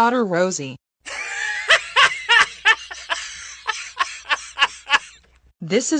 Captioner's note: laughing